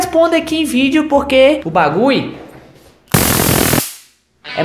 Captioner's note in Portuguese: barulho de eletricidade